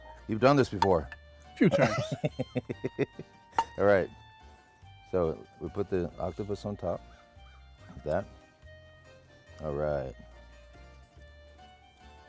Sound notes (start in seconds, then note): 1.6 Todd laughs